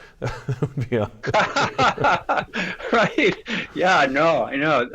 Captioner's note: laughing